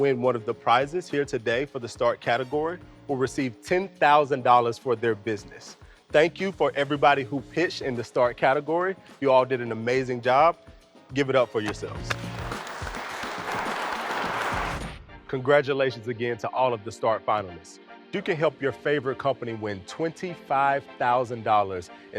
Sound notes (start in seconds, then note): 12.1 audience applause